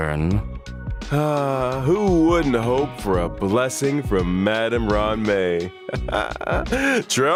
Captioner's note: sigh